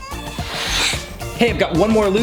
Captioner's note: camera whooshing